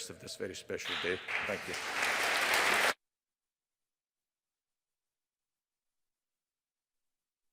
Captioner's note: audience applauding